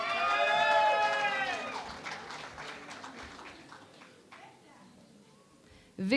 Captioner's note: cheering and Applause